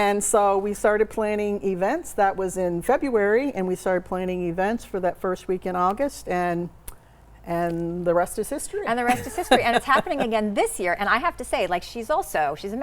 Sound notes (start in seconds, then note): 9.1 laughs